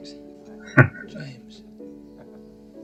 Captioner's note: chuckling